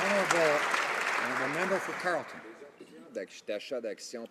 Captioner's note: some Applause